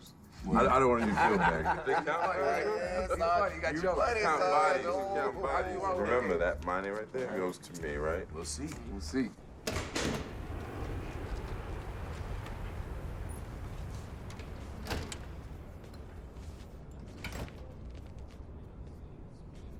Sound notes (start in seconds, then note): 0.5 laughter; 10.2 jet flying; 17.2 distant chatter